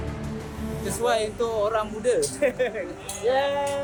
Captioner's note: laugh